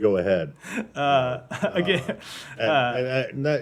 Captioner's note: laughter